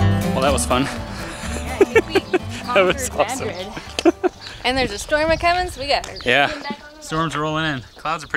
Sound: laugh

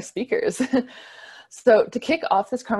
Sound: chuckles

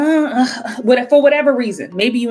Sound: grumbling moan

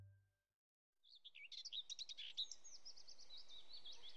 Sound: birds chirping

